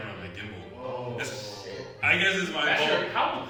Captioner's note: both gasp